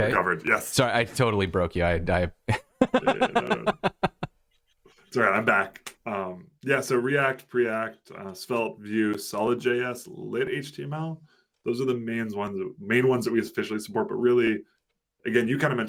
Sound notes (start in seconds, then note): 2.4 laughter